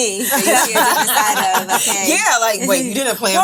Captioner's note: women laughing